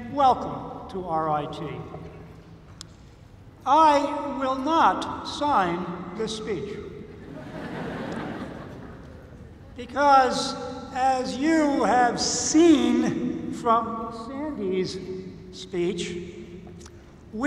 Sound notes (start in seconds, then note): 7.2 laughter